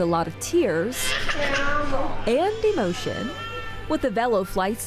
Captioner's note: baby cries